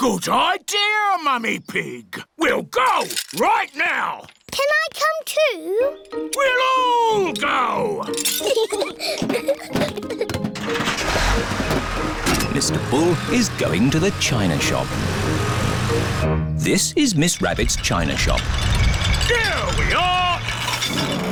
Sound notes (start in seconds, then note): 8.0 peppa and george giggle; 10.5 engine turns on